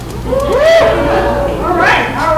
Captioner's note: audience cheers